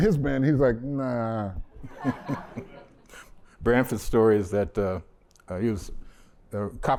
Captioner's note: laughter